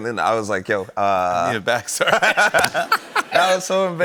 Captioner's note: laughter